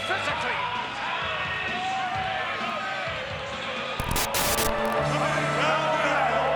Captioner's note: crowd chattering; upbeat music